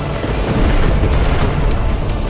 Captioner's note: explosion